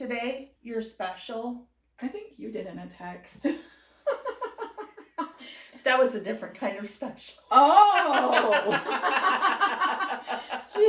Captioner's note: laughter